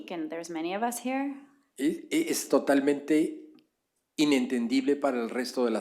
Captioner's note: spanish